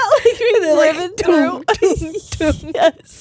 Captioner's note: all laughing